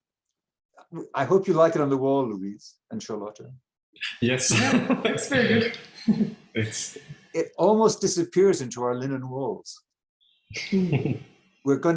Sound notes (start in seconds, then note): 4.4 chuckling